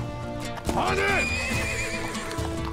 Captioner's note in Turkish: At kişneme sesi